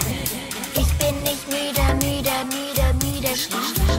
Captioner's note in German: Tick Tack …